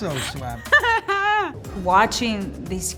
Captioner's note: laughs